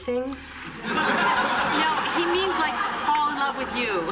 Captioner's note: laughter